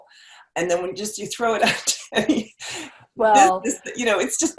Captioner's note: laughs